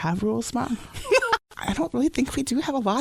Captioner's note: laughs